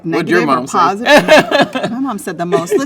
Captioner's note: laughs